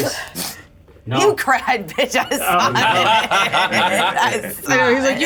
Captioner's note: chuckles